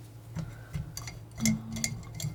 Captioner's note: tapping